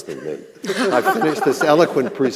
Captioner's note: panel laughing